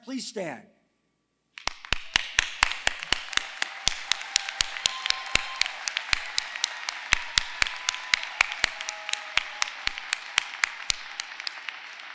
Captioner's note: applause